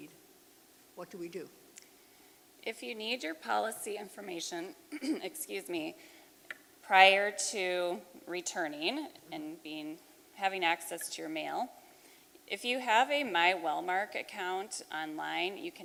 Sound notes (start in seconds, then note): 4.9 clears throat